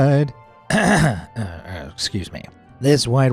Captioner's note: clears throat